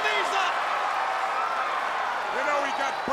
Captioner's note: crowd cheering